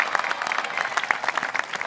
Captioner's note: applause